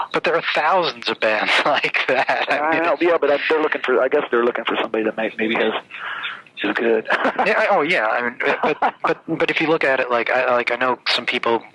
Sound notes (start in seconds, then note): 1.4 laughs; 8.2 laughs